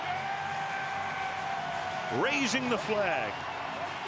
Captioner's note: screaming